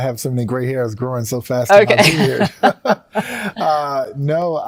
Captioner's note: chuckles